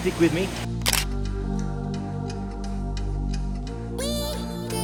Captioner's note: shutter clicks; upbeat music